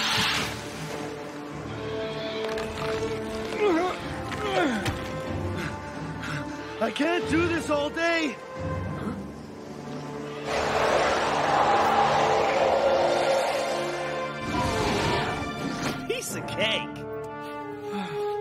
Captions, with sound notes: (Grunting) (Panting) I can't do this all day! Huh? Piece of cake!